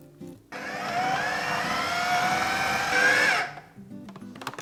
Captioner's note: blender whirring